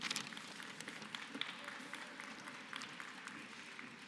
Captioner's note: applause